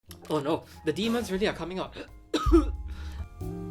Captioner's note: coughs; mellow music